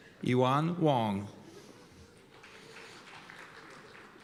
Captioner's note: applause